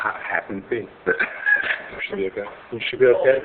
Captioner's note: laughing